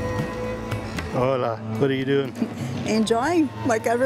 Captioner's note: in Portuguese